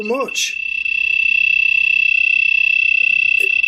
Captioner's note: beeping